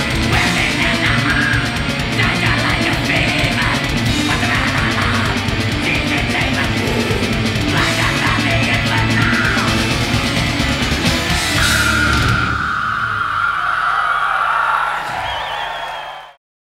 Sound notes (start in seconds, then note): 11.7 screaming; 13.3 audience cheering